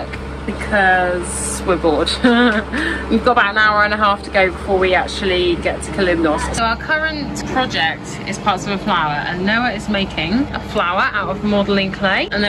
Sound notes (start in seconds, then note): 2.1 laughs